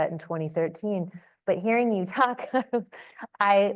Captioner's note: chuckles